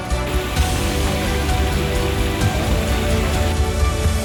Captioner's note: fountain splashing